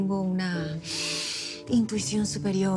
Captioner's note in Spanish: Sonido al inspirar